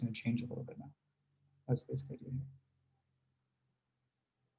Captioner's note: speaks faintly